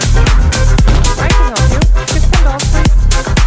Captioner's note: thump